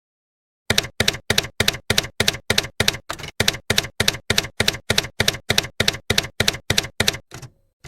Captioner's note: typewriter keys clacking